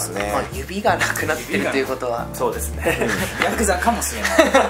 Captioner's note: laughs